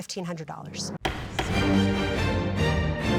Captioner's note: dramatic music; gavel banging